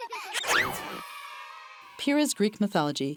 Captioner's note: children laughing; children cheering